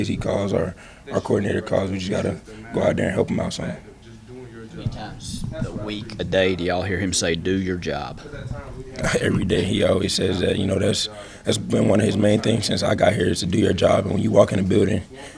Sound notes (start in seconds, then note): 8.1 chuckles